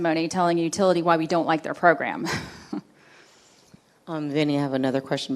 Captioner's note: chuckles